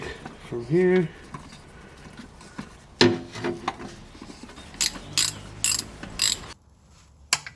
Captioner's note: metal clanking